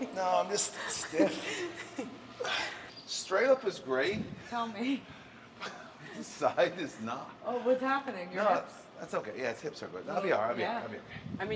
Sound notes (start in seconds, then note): 5.6 laugh